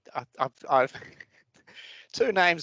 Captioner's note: chuckles